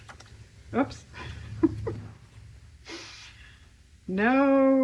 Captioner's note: laughs